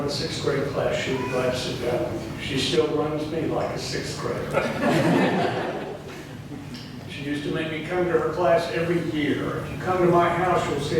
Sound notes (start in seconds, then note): 4.6 laughing